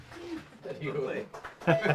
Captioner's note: onlookers applaud; group laughs